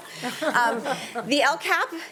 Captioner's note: panelists chuckling